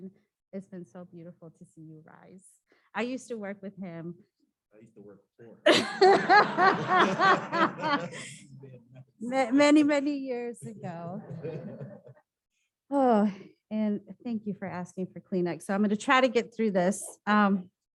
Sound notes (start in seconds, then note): 5.6 laughter